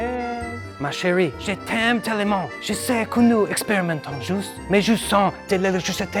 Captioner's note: speaking In French